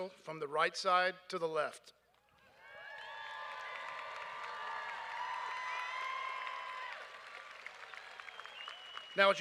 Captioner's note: cheers and applause